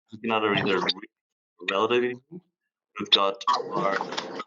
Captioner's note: audio distorts 03.44